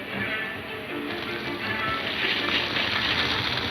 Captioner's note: fire crackling